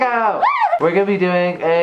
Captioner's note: squeals